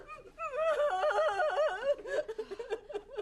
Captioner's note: crying